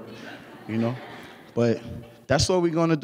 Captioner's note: laughing